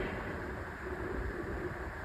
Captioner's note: bang